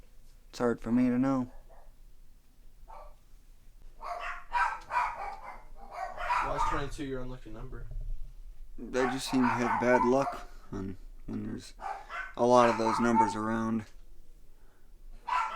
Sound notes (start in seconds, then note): 3.9 dogs barking